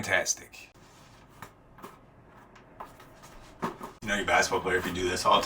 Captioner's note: basketball patting